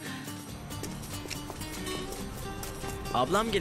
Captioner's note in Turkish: ayakkabı sesi